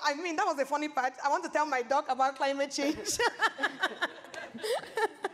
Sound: laughs

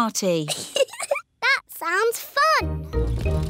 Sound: giggles

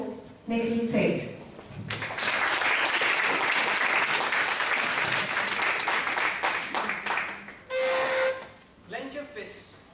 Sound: applause

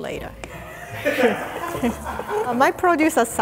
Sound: crew laughing

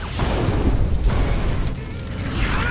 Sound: explosions

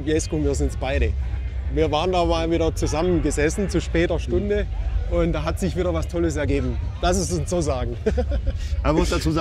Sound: laughs

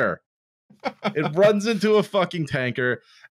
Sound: laughs

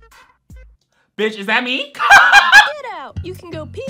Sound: laughs

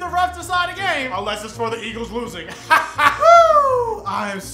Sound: laughs

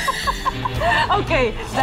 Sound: all laughing; buzzer buzzing

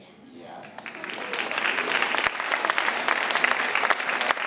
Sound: audience applauding

